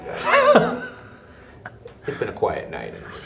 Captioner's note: laughs